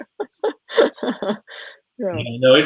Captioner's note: laughing